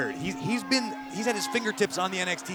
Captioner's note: bell ringing